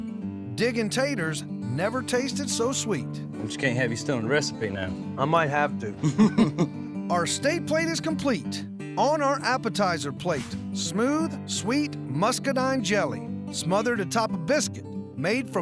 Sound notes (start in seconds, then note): 6.0 both chuckle